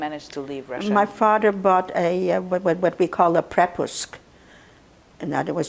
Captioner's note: russian